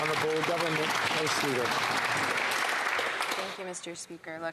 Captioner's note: applause